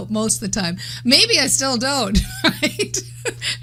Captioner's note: laughing